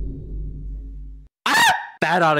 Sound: yells

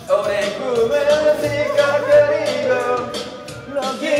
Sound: squeaking

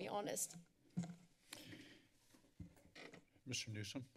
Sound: microphone rustling

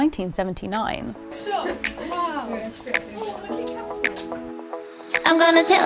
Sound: upbeat pop music; group chattering

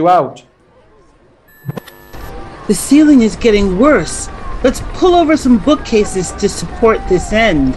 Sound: TV static and ceiling creaking

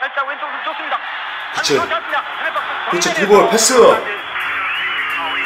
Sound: radio sound coming out from the speaker; radio commentating

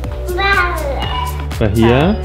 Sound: burbling

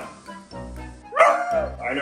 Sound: Oliver barks

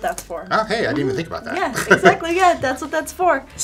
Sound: laughing

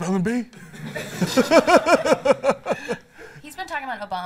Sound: laughs

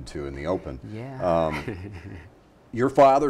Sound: chuckles

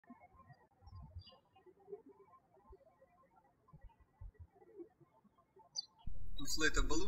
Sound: birds chirping

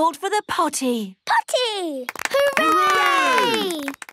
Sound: cheering, clapping

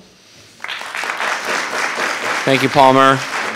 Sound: audience applauding

